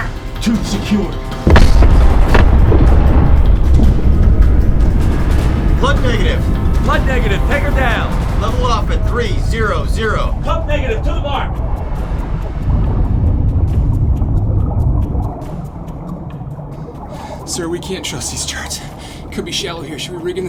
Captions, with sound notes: Tube's secure. [explosion] Flood negative! Flood negative! Take her down! Level off at three, zero, zero! Flood negative to the mark! [water bubbling] Sir, we can't trust these charts.